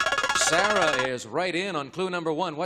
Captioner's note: buzzer